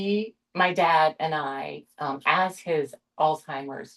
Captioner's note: none